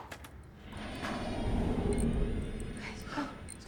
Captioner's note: tense music; door creaking